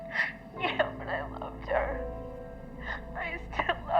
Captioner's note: crying